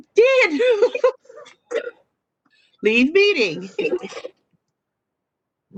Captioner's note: laughter